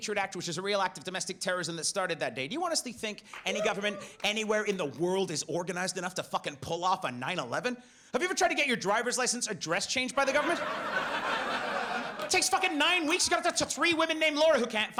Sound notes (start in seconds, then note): 10.2 audience laughs